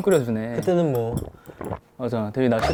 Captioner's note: gulp